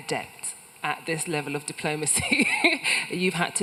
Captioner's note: laughs